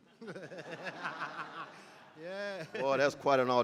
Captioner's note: laughs